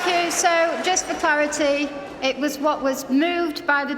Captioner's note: applause